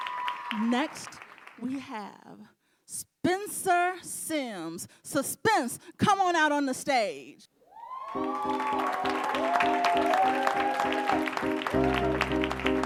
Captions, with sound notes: Next, we have Spencer Sims Suspence. Come on out on the stage. (audience cheering and applauding) (mid tempo mellow music)